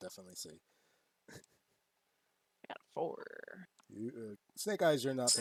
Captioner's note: stammers